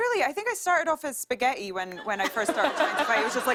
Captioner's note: laughter